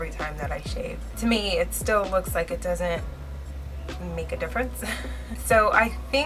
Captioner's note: laughs